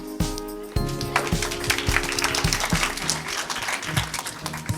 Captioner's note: audience claps